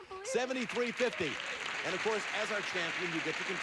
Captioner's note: audience applauding